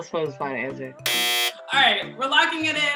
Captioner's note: buzzer sounds